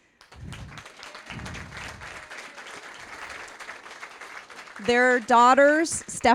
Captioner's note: applause